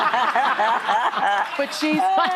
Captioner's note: laughter